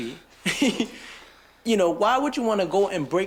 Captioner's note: chuckles